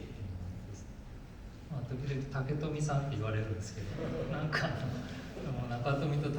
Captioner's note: laughs